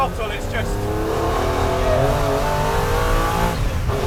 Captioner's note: engine roars